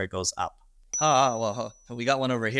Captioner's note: bell chimes